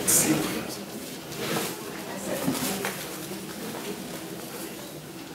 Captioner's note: audience murmuring